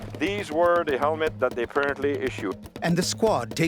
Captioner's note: voiceover